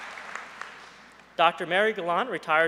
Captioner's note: applause